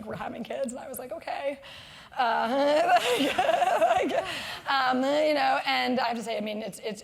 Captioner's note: laugh